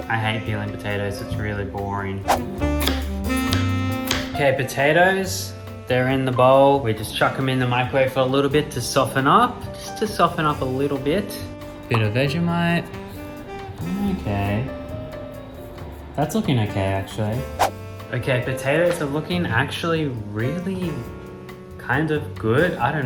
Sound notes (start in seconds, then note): 3.1 jazz music; 3.4 chopping sounds